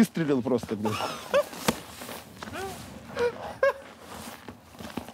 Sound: Dud laughs

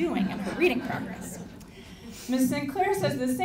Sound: audience laughing

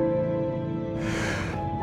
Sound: inhales

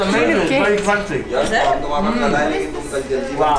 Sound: laughing

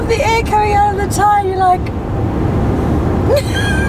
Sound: laughs

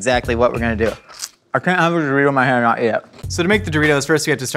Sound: crunch

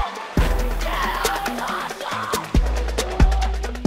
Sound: yells

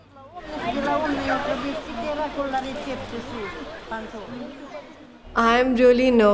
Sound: foreign dialogue

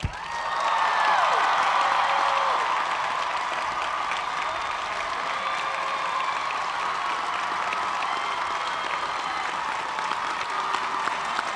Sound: cheers and applause

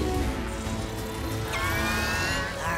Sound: squawks

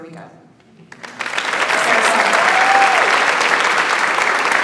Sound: audience applauds

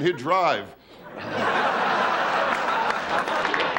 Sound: laughing; clapping

